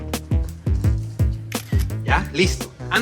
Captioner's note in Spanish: Clic de la cámara